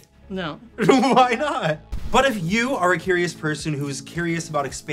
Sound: chuckles

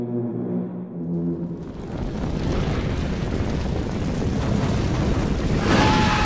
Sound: roaring of flames

